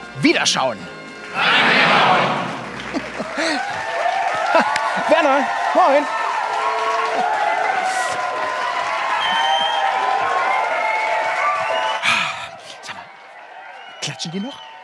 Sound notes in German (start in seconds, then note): 2.3 Kichern, Jubel, Applaus; 9.1 Pfiffe